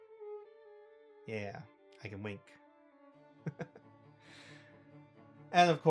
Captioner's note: chuckle